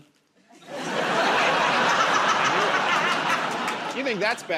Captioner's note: laughter